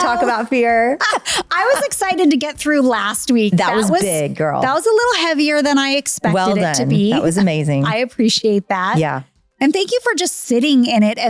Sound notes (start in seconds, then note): 0.0 laughing